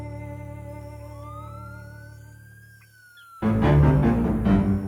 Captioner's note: siren wailing